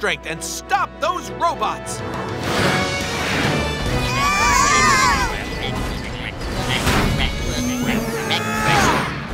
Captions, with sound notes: stop those robots. [yelling] [grunting]